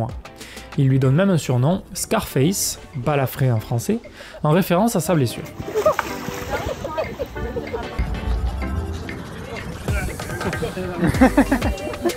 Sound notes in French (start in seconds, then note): 5.6 cri de surprise; 5.6 rire nerveux